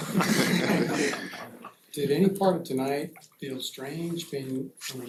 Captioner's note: laughter